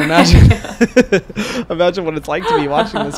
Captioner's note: both laughing